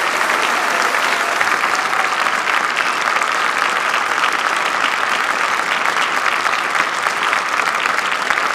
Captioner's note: applause